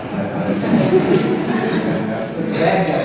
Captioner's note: laughter